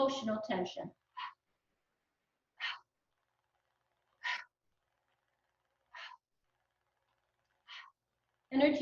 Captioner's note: breathing continues